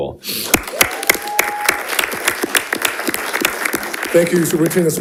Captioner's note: attendees applauding and cheering